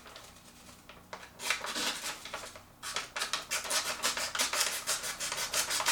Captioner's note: cutting noise